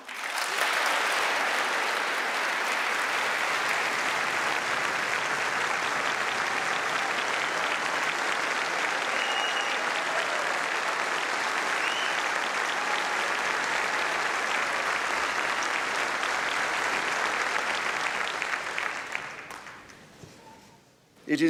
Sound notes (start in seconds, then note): 4.9 applause